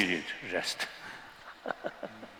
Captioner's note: laughter